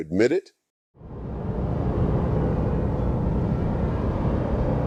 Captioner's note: ominous whooshing